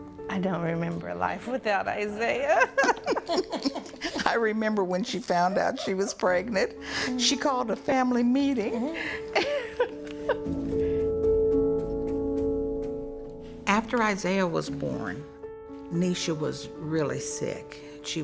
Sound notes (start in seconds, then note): 0.0 soft music; 2.4 laughing; 8.7 laughing; 11.4 soft music